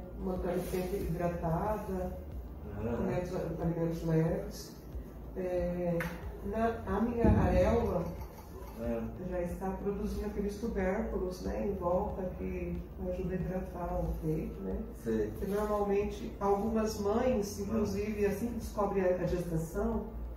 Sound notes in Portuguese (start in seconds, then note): 2.6 murmúrios de afirmação